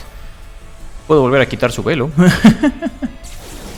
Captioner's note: laughs in Spanish